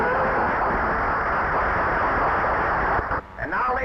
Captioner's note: audience applauding